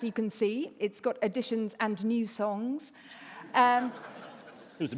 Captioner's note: laughter